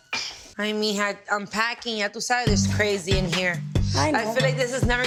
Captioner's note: speaking Spanish